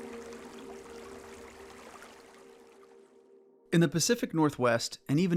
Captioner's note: water sounds